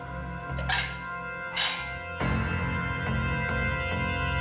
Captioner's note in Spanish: ruido al tocar objetos